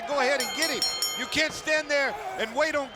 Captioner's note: bell ringing